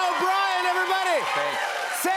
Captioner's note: cheers and applause